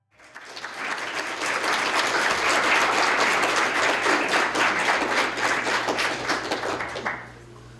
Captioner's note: applause